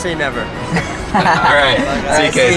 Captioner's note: laughing